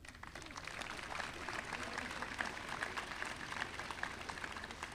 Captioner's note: audience applauding